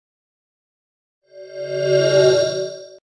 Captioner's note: swoosh